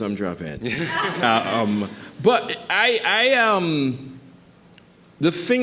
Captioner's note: audience chuckling